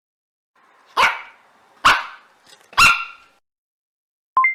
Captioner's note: dog barking